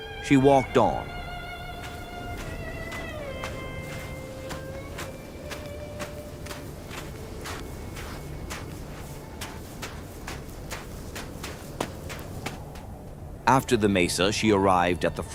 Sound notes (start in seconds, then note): 0.3 walking sounds